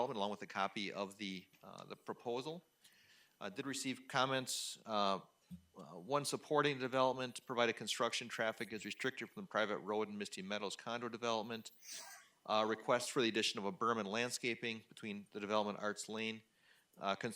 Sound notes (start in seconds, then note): none